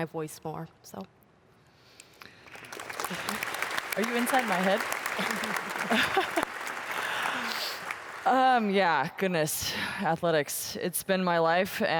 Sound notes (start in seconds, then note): 3.9 applause; 7.8 laughter